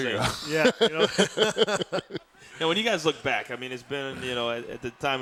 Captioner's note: laugh